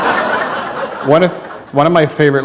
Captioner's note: laughter